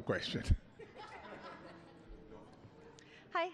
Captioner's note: laughter